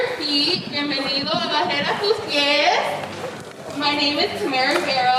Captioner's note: speaking in foreign language